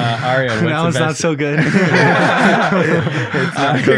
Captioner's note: group laughing